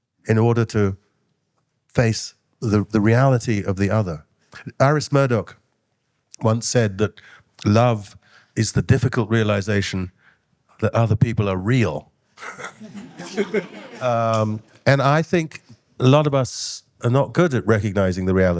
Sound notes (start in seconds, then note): 12.4 all laughing